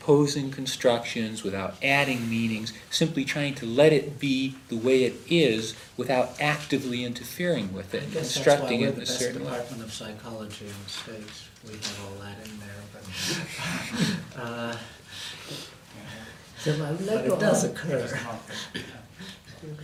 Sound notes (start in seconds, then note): 13.1 laughs